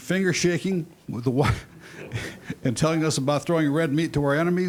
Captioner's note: laughing